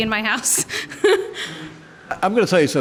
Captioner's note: laughs